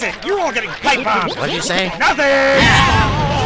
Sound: arguing

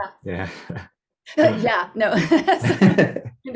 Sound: gasps

